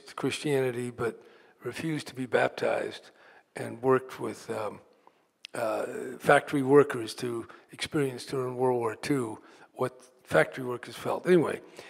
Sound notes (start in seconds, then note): none